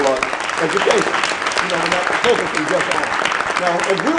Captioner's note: applause